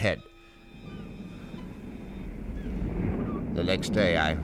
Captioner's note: waves crashing